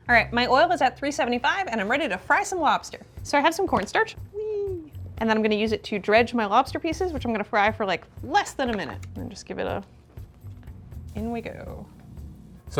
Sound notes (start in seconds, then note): none